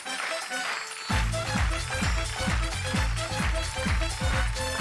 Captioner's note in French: indicatif musical; applaudissements; indicatif musical